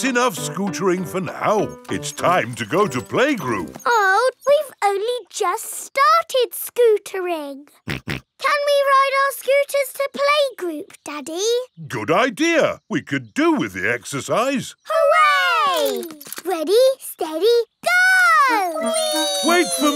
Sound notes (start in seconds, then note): 8.3 snorts